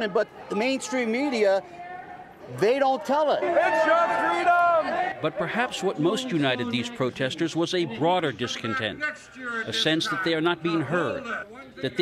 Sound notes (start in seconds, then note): 4.5 crowd yelling